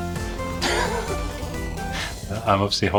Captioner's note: laughs